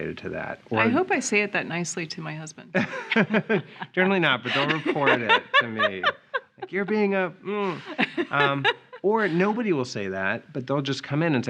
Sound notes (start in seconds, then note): 2.8 laughing